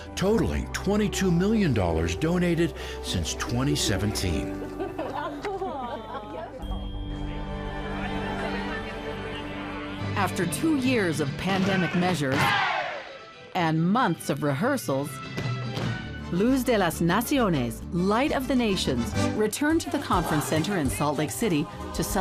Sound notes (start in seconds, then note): 4.4 people laughing; 6.8 gentle music